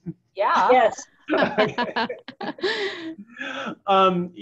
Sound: laughs

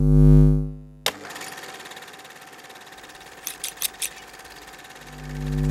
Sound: sewing machine running

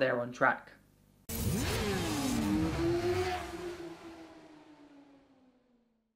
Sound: motorcycle engine roaring

